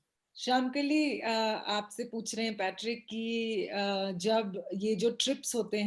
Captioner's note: speaks foreign language